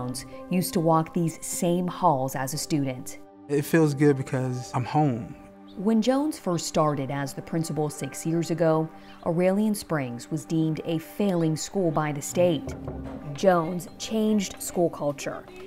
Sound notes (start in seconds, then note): 12.2 knocking on door